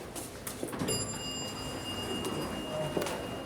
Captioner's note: elevator dings